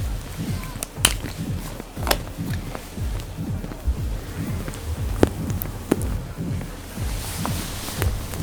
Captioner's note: water splashing